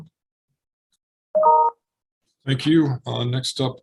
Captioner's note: computer notification dinging